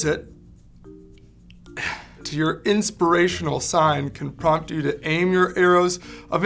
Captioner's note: laughs